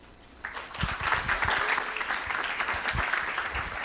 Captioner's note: applause